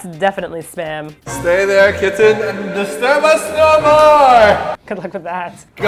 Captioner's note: loud echo-ey voice